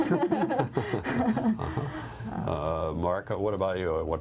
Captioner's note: laughter